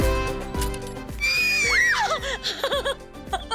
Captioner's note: screams; laughs